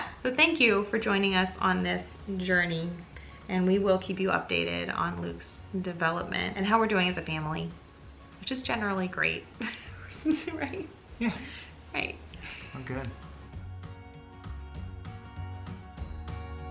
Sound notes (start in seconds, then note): 10.2 murmurs; 13.9 upbeat music